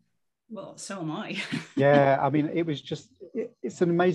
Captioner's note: laughing